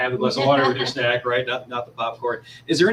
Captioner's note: laughter